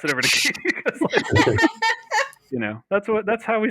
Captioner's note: laughter